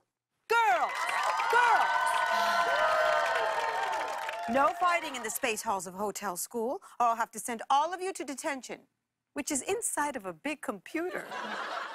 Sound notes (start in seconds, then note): 2.5 sighs